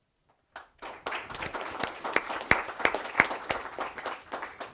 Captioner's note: applause